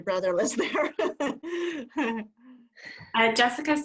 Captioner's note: laughter